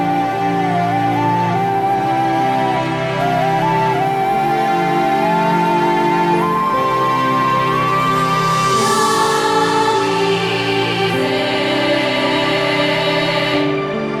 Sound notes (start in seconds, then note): none